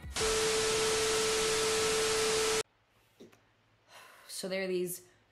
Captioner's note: television static